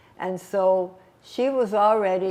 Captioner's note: none